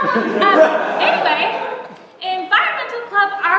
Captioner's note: laughter